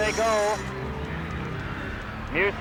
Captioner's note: crowd cheering